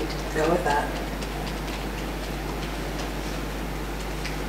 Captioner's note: fingers tapping